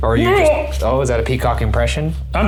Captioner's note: exclaims